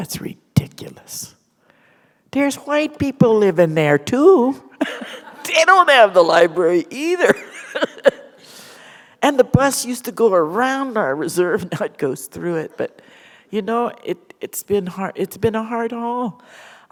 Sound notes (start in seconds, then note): 4.8 laughter; 7.7 chuckle